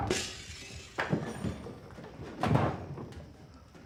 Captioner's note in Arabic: تحطم الزجاج; قعقعة الأشياء